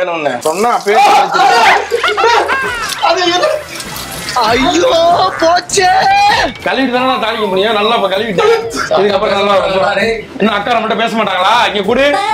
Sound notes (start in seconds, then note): 3.2 screams